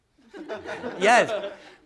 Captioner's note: laughter